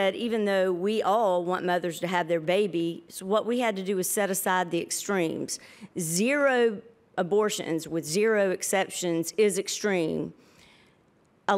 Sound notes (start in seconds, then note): none